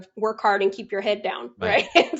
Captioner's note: laughs